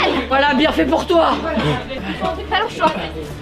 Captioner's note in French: Tousse